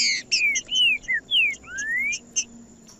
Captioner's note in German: trinca ferro cantando